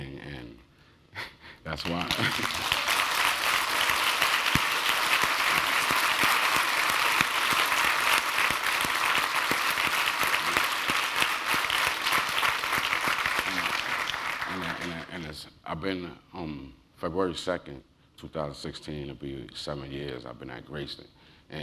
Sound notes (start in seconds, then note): 1.8 applause; 1.8 laugh